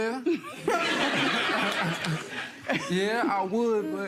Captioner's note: audience laughter